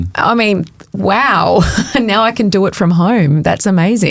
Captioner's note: chuckles